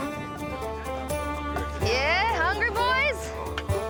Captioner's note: chatter